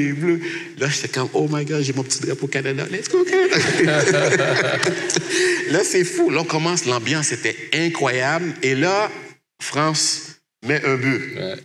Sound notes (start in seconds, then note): 3.1 laughs